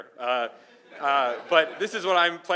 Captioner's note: laughing